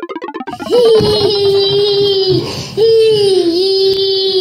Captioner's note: Gaga Baby laughs